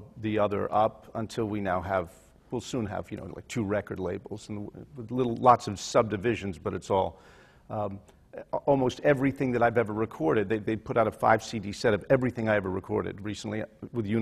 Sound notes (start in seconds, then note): none